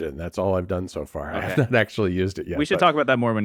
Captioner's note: laughs